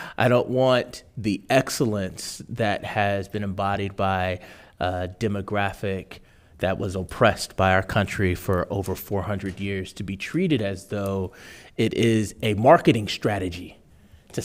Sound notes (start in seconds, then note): none